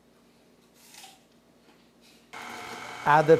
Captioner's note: apple crunching